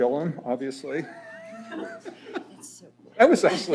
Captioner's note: laughter